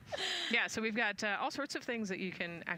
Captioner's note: laughter